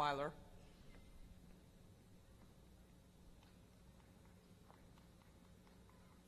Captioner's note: applause